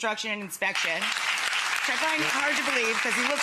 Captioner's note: audience applauds